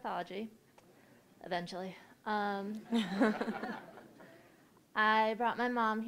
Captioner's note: audience laughing